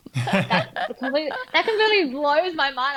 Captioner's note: laughing